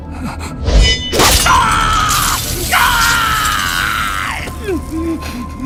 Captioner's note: Sound of Shen Zechuan drawing his blade. Ji Lei lets out a miserable scream